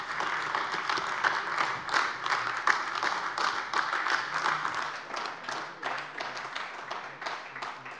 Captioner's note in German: Beifall AfD